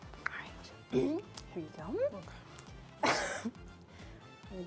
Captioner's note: laughs